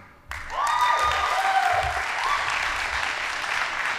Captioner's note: audience applauding